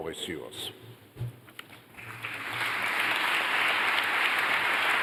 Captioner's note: applause